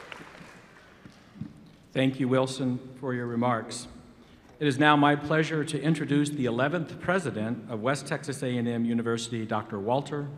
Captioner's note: applause